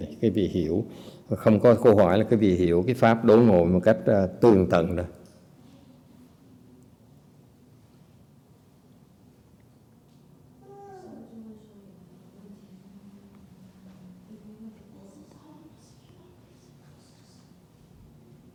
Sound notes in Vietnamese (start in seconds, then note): 5.5 silence